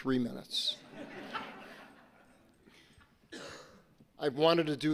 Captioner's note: audience laughing